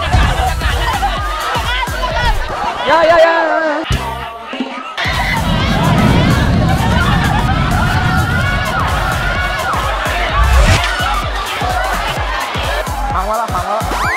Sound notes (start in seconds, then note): 4.9 people screaming indistinctly